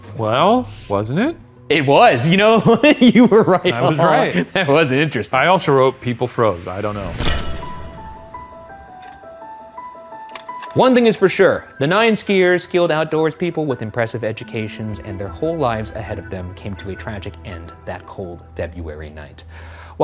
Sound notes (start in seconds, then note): 2.6 laughs; 7.3 eerie music